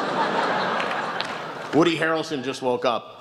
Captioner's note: laughs